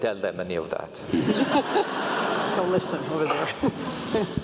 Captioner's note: laugh